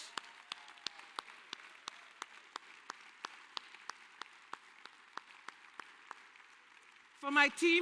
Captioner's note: applause and cheering